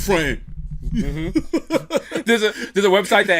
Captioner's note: laughs